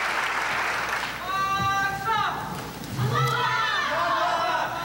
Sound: crowd cheering

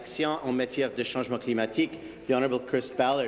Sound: speaking in French

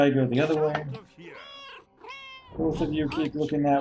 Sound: Hodge meowing; Hodge meows

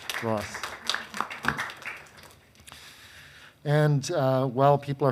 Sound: attendees clapping

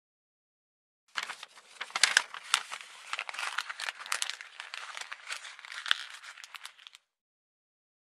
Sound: sound of paper

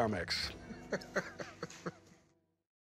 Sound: laughs

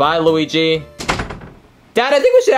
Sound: door thuds

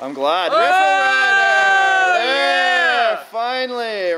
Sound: shouts

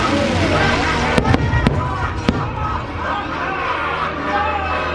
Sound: fireworks banging; menacing laughter

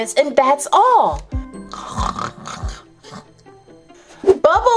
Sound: Bubbles snoring

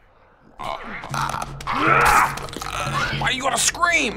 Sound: Clicker croaks; Joel grunts fiercely

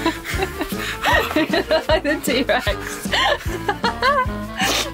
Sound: laughing

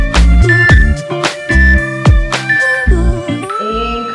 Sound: countdown timer beeping

